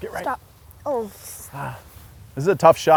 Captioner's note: grunts